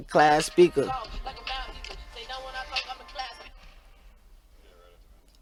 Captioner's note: recording playing back